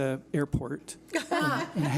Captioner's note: laughs